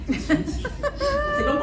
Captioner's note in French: rires